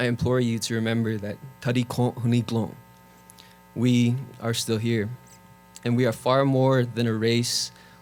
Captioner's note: speaking Navajo